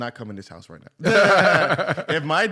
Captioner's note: laughter